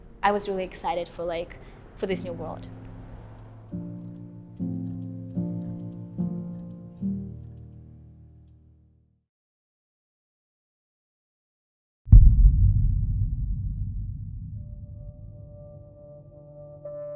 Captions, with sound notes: I was really excited for like for this new world [explosion rumble]